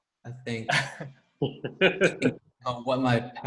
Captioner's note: laughter